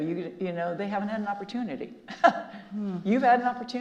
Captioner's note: laughs